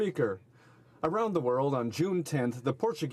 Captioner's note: speaking alternate language